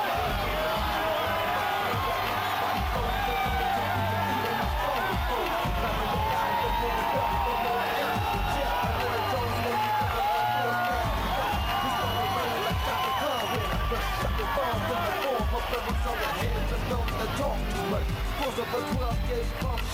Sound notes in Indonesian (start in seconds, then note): 17.9 Tepuk Tangan